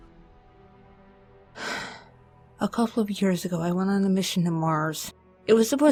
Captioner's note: sighs